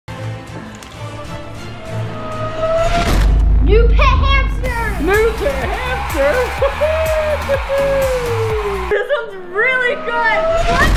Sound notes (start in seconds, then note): 0.2 dramatic music; 4.6 crowd cheering